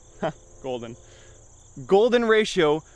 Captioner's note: laughs